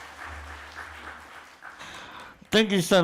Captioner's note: applause